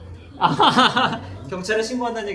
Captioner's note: laughs